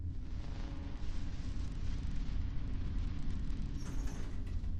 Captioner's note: static buzzing